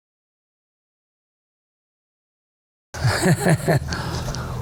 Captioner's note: laughs